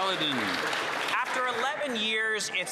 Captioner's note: some Applause